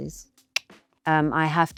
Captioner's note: clicks tongue